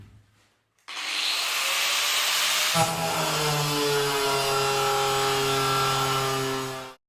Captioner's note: grinding resumes